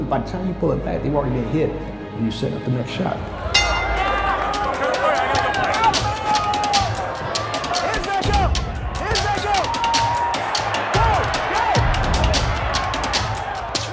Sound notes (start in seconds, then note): 3.5 bell ringing; 4.9 intense music; 7.6 audience cheering